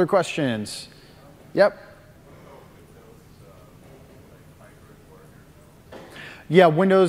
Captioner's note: off mic